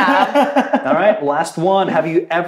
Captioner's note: laughs